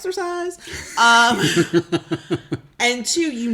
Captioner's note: laughs